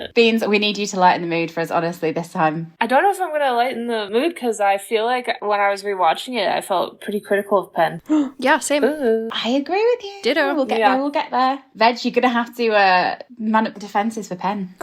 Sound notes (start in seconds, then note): 8.0 gasping